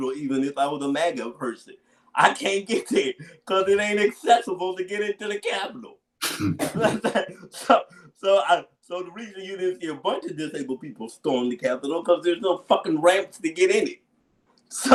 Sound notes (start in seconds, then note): 6.2 laughs